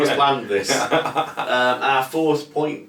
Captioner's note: chuckles lightly